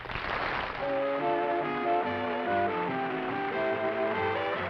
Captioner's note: applause